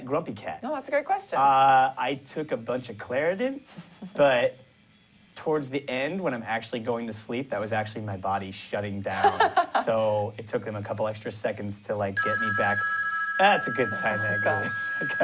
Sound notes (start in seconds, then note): 12.2 ring